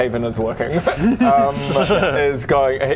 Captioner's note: sneaky giggle